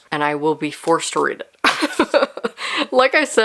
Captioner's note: laughing